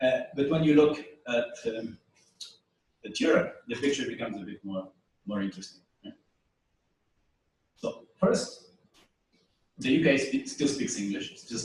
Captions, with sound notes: But when you look at... Europe, the picture becomes a bit more interesting. [pause] First... do you guys still speak English,